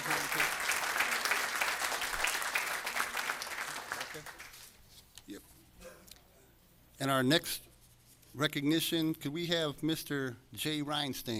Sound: applause

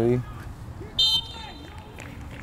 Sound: whistle blows; players talking and yelling

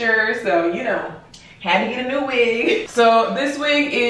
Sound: giggles

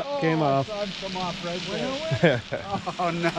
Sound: reel cranking; background chatter

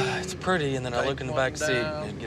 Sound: sighing

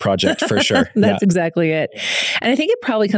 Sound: laughing happily

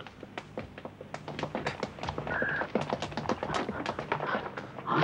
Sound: pattering feet

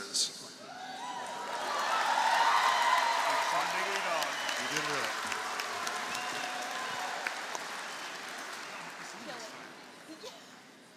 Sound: applause

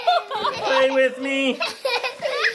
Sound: laughing

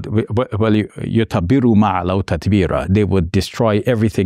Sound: speaks in Arabic

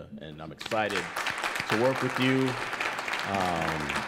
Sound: audience applauds

